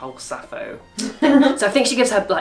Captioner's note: laughs